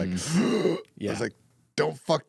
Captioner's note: gasping